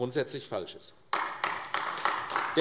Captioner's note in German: Beifall AfD